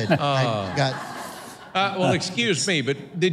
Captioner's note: audience laughs